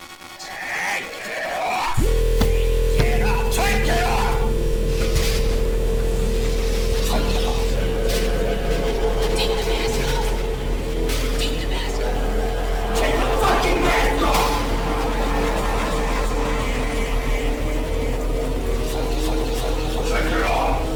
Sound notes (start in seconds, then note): 1.6 radio noises blaring; 4.7 slam